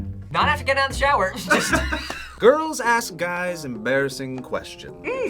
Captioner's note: React laughs